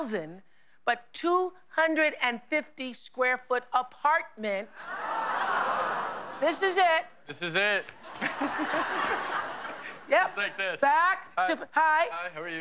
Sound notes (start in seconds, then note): 4.5 crowd murmurs